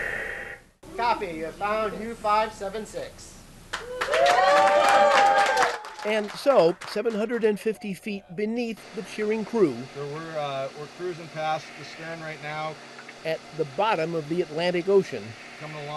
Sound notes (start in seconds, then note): 3.7 clapping and cheering